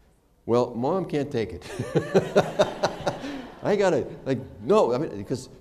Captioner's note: laughter